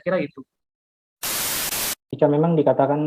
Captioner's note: TV sound